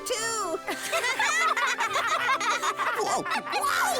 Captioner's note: all laugh